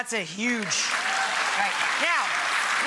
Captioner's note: audience applauding